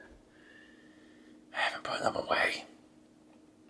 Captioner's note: whispering